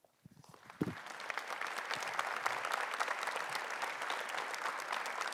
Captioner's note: audience applauding